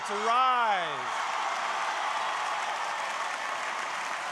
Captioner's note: crowd applauding